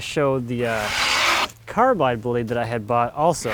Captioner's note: tool scrapes